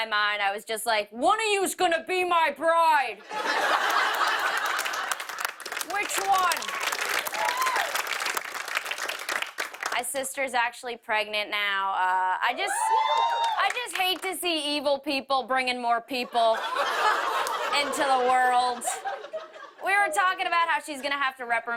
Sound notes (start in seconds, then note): 3.2 laughter; 7.3 cheers and applause